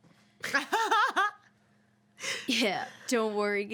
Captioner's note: woman laughs